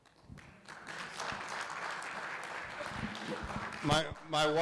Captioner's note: audience applauds